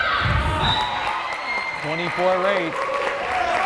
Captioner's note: whistle blares